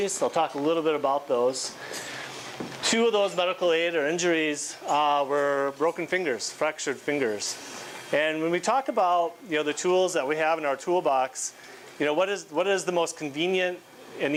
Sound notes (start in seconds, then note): none